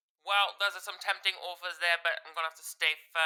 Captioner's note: British accent